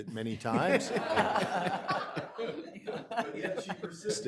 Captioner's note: people laughing